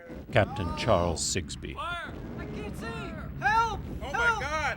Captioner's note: men yell in distress